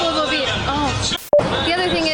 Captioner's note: static crackling